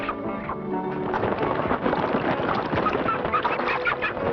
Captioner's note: quacking